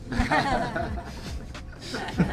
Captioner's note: laughs